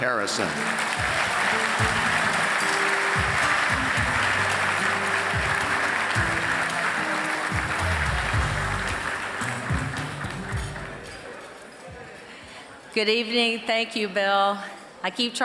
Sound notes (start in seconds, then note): 2.1 applause